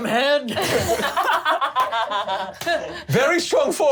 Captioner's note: laughs